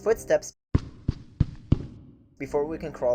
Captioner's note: low, fast-paced footsteps